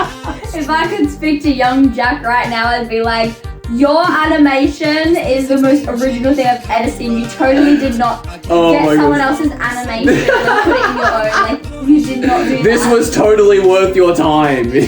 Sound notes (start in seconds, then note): 8.4 still laughing